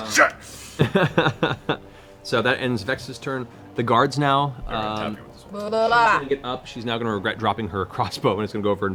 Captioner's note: laughs